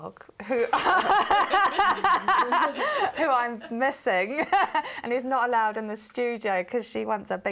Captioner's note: laughs